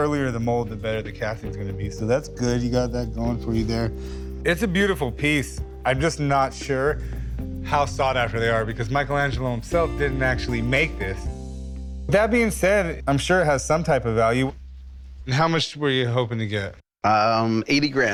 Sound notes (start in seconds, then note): none